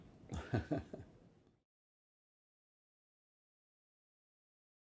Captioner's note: laughing